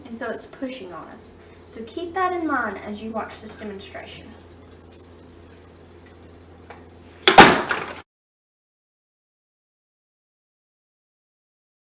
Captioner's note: loud bang